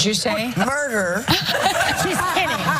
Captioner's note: laugh